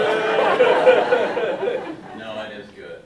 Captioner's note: audience laughing drowns out speaker